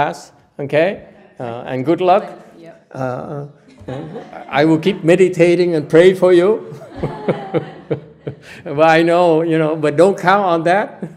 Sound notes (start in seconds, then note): 6.7 laughter